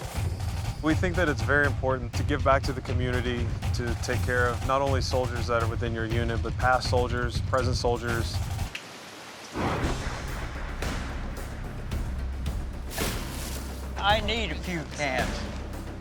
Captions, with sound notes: We think that it's very important to give back to the community, to take care of not only soldiers that are within your unit, but past soldiers, present soldiers. [rainfall] [lightning] I need a few cans.